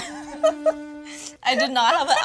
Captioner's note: laughs